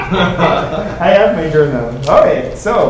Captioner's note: everyone laughing